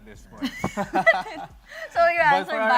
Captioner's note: laughter